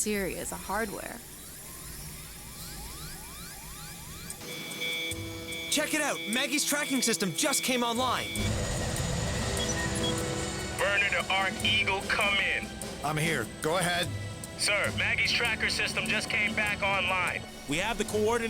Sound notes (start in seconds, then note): 3.6 tracking system beeps; 5.3 beeping; 9.8 rotors beating